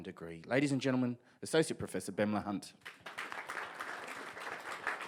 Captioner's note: audience applauds